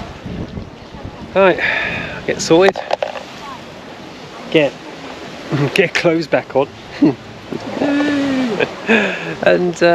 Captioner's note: laughter